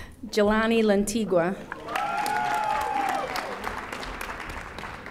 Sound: audience applauding

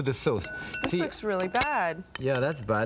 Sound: spoon clinging

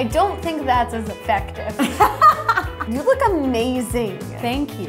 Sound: laughs

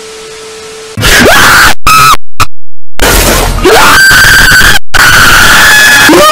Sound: many screams

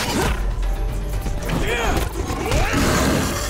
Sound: grunting

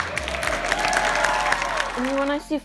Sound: crowd cheering

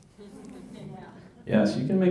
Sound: laughter

